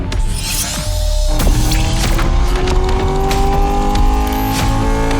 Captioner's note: mechanical click rings